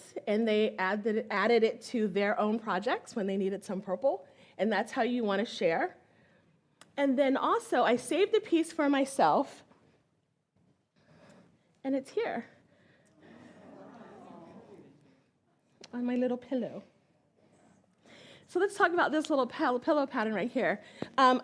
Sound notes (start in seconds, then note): 13.7 audience exclaims